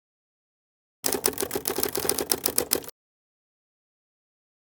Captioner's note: typewriter typing